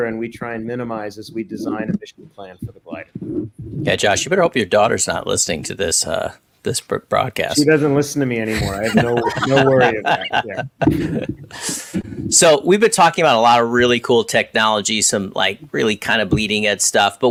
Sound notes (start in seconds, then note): 10.4 panel laughs